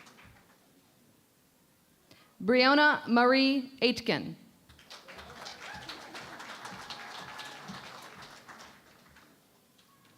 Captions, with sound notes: Breonna Marie Aitken. [ Applause ]